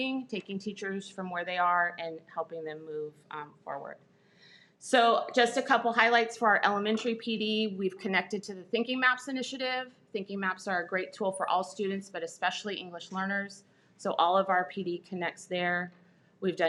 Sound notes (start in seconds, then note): none